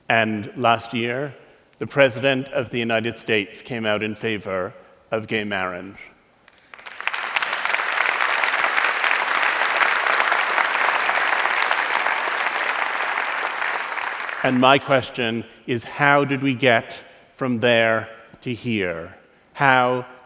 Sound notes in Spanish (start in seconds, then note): 6.4 Aplausos